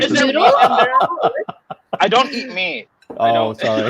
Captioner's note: laughing